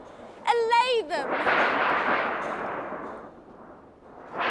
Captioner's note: metal clanging